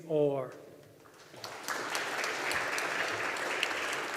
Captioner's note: audience applauding